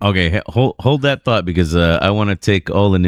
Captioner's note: uh